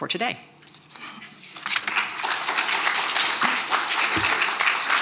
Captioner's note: crowd applauding